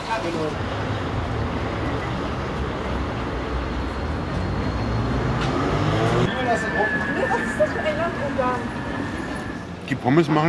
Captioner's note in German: Strassengeräusche